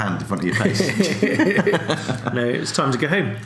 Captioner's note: laughs